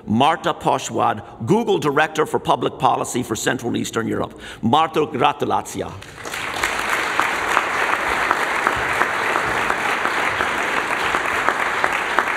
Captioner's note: speaks in Polish; applause